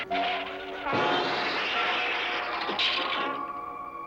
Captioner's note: tires squealing; crashing